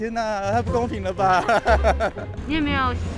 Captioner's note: laughs in bitterness